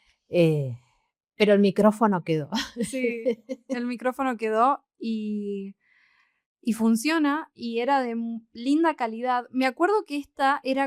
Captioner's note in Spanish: risas